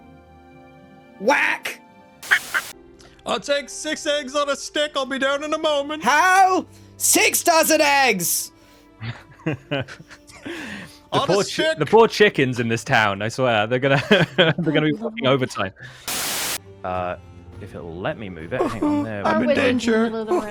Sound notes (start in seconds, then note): 9.0 laughs; 14.2 laughs